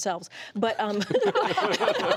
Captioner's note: laughter